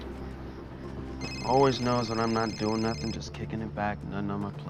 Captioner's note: phone Ringing